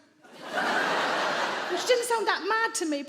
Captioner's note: audience laugh